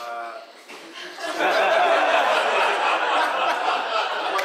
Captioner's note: audience laughing